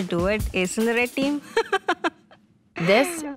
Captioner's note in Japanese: 笑い